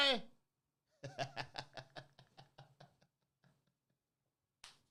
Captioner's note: laughing